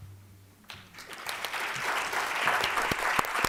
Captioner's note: applause